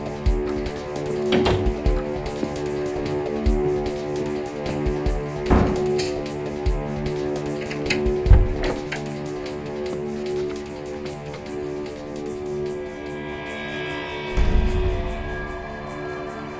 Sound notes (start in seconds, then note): 0.1 suspenseful music; 7.0 door clicking